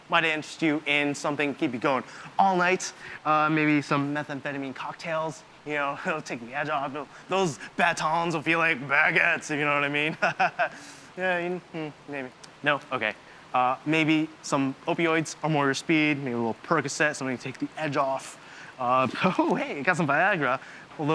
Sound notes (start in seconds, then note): 9.8 Oz laughing